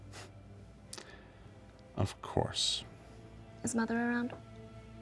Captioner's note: scoffs